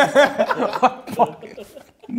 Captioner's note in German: Lachen